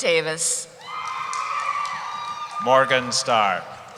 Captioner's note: cheering